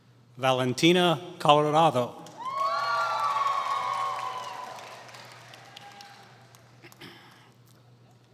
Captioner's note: applause